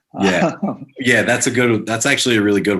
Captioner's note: laughs